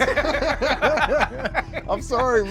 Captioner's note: both laughing